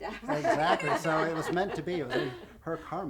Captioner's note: laughing